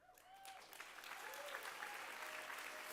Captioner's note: applause